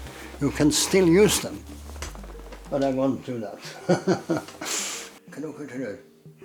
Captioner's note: chuckles